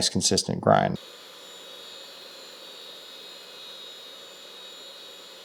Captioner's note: machinery whirring